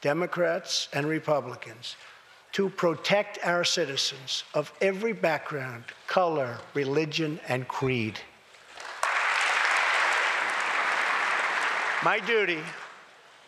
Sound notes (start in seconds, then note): 8.7 applause